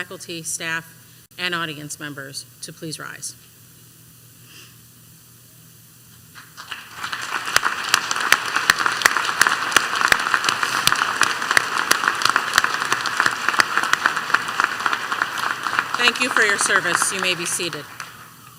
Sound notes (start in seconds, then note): 9.1 applause